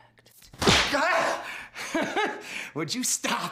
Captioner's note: whip cracks; Dick shrieks